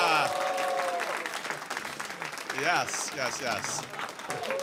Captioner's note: applause